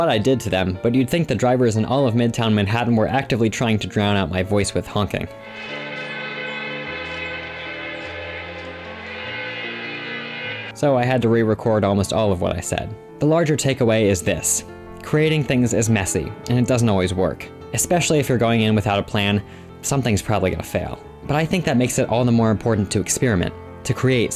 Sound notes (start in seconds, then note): 5.4 honking